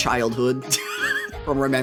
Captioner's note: laughs